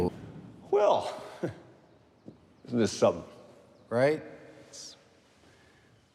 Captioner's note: laughing